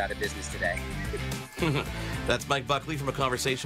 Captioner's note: chuckles